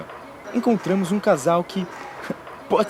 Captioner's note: giggles